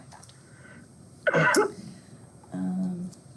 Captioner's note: yawning